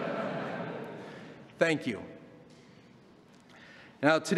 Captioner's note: laughter